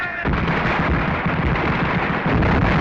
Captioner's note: firing